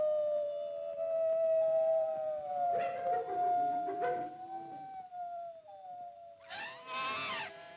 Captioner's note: Mowgli howls; wolves howling; animal squawks